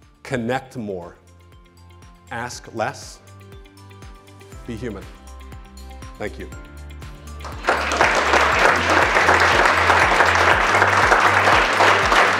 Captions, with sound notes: Connect more, ask less. Be human. Thank you. (clapping) (upbeat music)